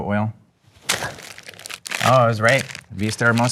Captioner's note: wrapper crunching